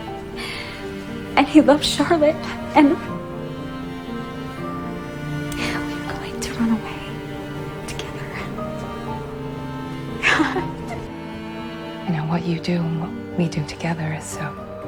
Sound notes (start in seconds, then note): 10.2 Janine laughs; 12.2 voiceover